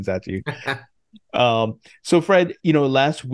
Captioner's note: laughs